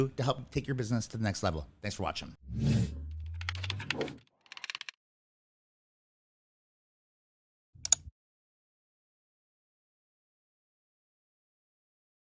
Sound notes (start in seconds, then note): 2.4 screen whooshes; 4.4 mouse pointer clicks; 4.4 text clicking